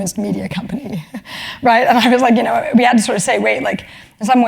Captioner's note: laugh